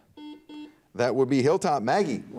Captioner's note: buzzer dings